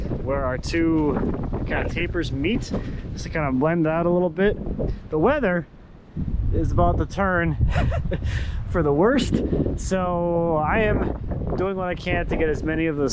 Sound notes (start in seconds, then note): 7.6 chuckles